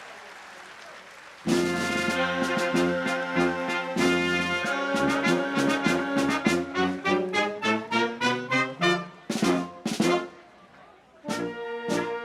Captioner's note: applause